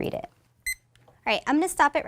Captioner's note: beep from timer